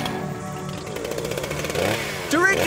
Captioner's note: chainsaw revs loudly